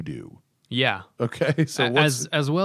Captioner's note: laughter